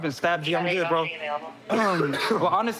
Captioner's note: coughs